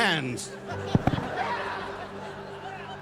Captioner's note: laughter